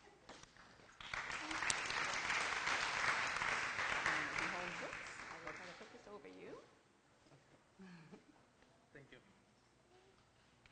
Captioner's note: applause and background discussion